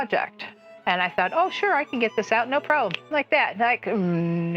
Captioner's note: snap fingers